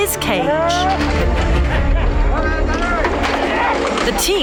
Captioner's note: men yelling